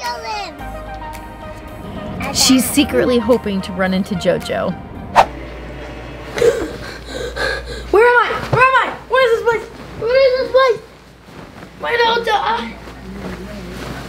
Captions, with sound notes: - Where JoJo lives! - She's secretly hoping to run in to JoJo. - (gasps) Where am I, where am I, where is this place? Where is this place? Where is the hotel?